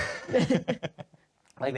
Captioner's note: laughing